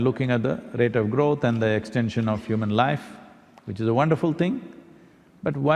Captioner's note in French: none